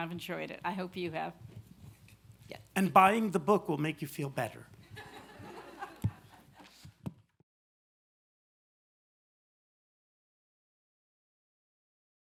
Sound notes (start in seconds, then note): 4.8 laughter